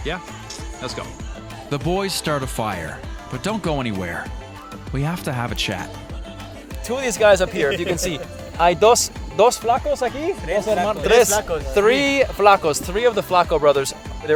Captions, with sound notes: Yeah? Let's go. The boys start a fire, but don't go anywhere. We have to have a chat. Two of these guys up here, if you can see. (speaking Spanish) - (speaking Spanish) - Three of the flaco brothers,